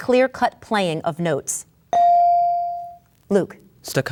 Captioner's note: bell dings